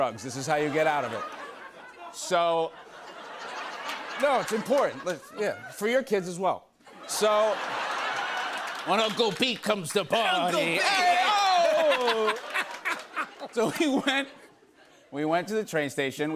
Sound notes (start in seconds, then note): 0.4 laughter